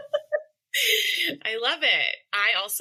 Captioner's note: laughter